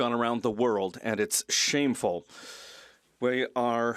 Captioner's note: speaking French